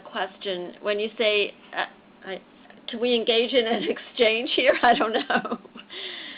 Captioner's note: laughs